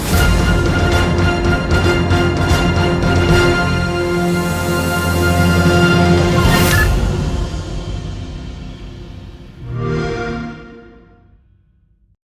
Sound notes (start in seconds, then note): 0.2 ดนตรีที่น่าตื่นเต้นดำเนินต่อไป; 9.6 xbox sound